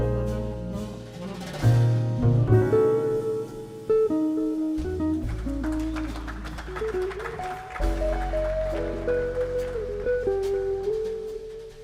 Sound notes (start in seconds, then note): 5.2 audience clapping; 9.2 gentle jazz